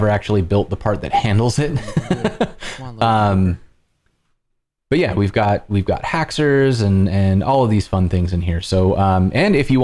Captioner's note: laughter